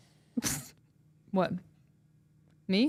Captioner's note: laughs